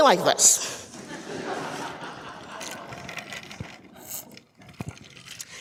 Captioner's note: audience laughing